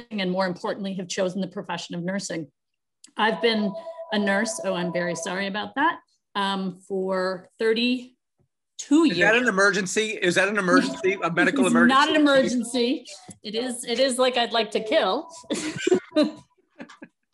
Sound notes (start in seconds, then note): 3.2 phone rings; 15.4 laughs